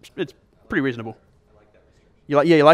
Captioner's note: voiceover